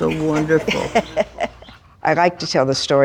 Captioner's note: laughing